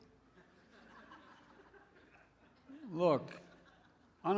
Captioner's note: laughter